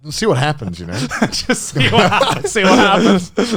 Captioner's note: laughs